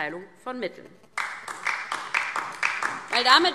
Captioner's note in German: Beifall DIE LINKE